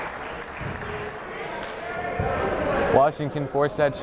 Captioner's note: clapping